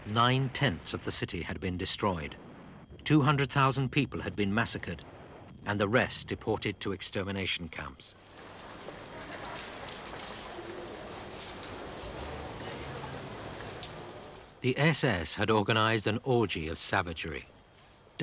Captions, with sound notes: 9/10 of the city had been destroyed. 200,000 people had been massacred, and the rest deported to extermination camps. (raindrops pattering) (footsteps pattering) The SS had organized an orgy of savagery,